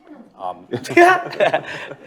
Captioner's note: laughter